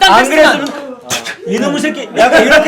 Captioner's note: spitting